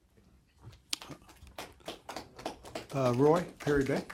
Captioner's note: applause